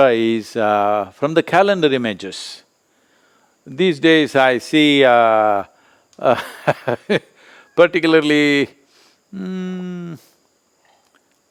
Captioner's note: laughs